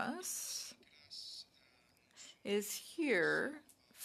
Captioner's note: speaking in French